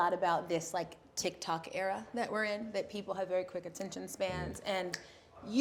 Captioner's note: snaps